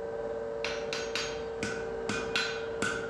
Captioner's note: machine noise, metal clanking